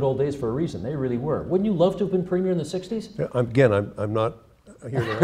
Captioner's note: laughter